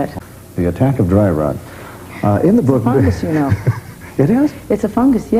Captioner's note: laughter